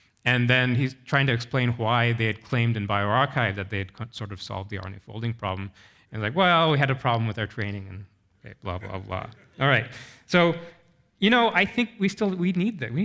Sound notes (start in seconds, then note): 8.8 audience member chuckles